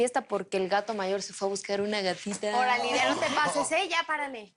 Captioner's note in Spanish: Exclamaciones y risas